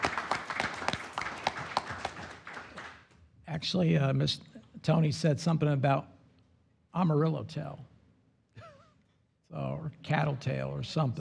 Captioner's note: applause